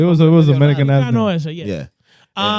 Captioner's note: speaking In Foreign Language